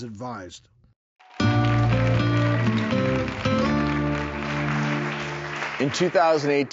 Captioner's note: audience applauds